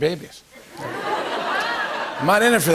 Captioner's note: laughter